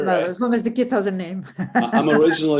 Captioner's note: laughs